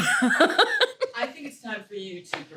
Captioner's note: laughing